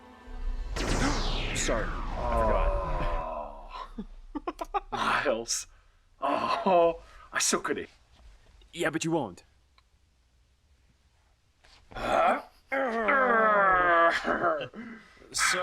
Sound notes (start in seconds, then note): 0.3 electronic whirring; 2.9 Rich groans; 12.0 brothers grunting